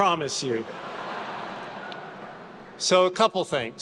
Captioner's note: attendees laughing